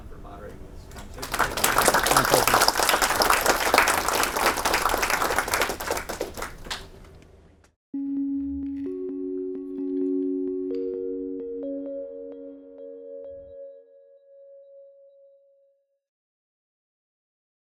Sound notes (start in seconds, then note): 1.0 audience applauding; 8.0 calming xylophone music